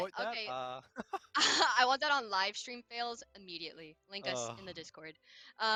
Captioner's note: sigh of defeat